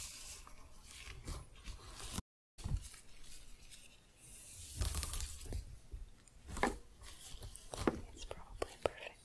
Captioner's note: shuffling, glove sounds